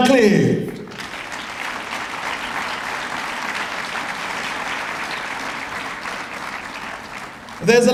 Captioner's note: applause